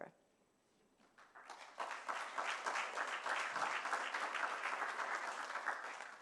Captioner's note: applause